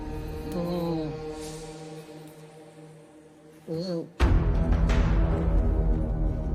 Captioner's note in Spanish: Quejidos ahogados